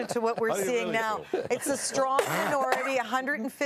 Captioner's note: laughter